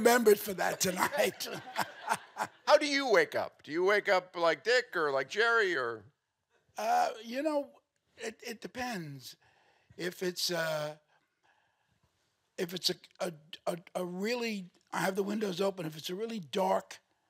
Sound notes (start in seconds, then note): 0.7 chuckles